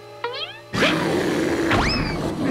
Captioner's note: bear growling